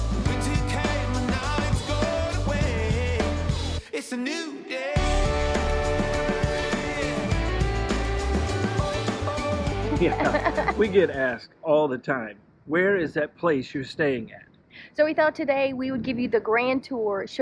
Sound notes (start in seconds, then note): 9.8 laughs